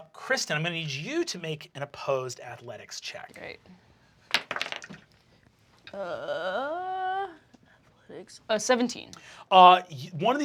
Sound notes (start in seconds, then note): 4.3 rolls dice